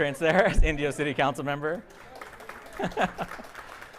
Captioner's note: audience applauding; laughs